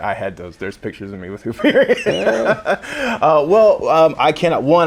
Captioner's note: laughing